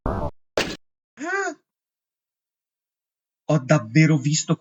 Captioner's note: gasp exclamation mark